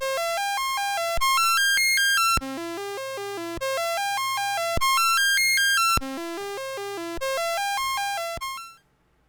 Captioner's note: rising and declining series of C64 tones